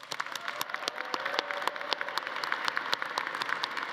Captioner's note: audience applauding